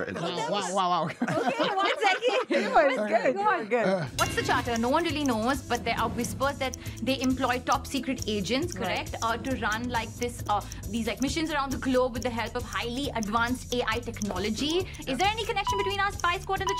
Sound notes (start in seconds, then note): 0.0 laughs; 0.0 all laughing